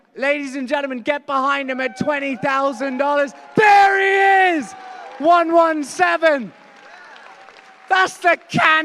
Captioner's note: applause